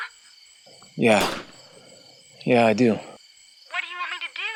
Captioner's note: distant gunfire continues